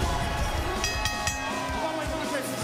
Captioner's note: bell ringing